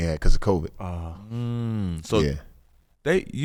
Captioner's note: humming thoughtfully